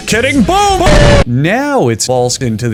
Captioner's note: WTFboom explosion